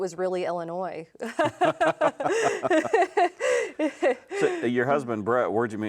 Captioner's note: both laughing